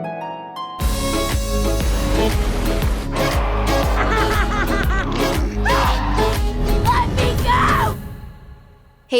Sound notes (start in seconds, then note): 3.1 monstrous roar; 3.3 manic laughter; 5.6 scream